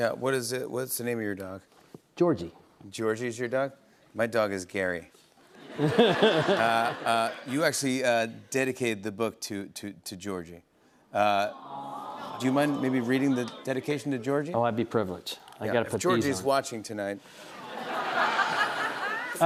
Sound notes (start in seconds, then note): 5.6 laughter; 11.4 audience "Awws"